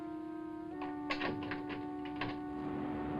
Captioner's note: ominous music; door unlocks